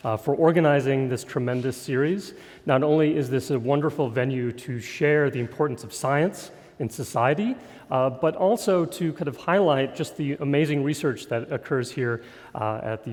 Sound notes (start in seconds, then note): none